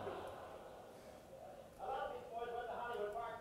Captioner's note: audience laughter